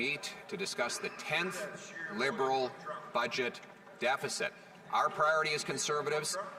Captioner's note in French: voix de l'interprète